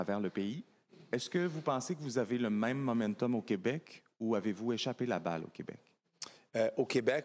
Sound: speaking FRENCH

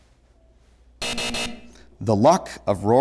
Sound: buzzer

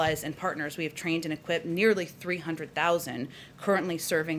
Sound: none

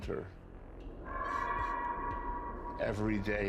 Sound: shouts echo

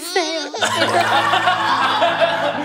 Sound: tears

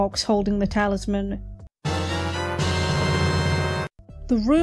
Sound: Zelda “get item” sound effect

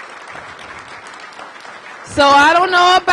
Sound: applause

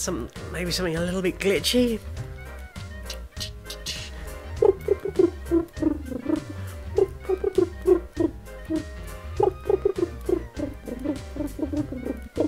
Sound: makes wub wub noises

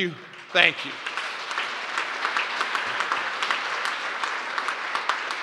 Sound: applause

